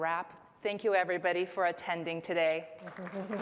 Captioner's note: applause